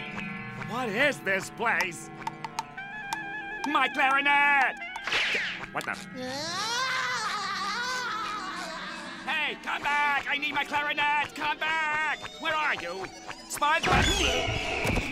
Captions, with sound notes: What is this place? My clarinet! What the...? [laughing] Hey, come back! I need my clarinet! Come back! Where are you? SpongeBo...